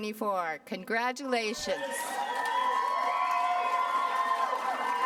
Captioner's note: applause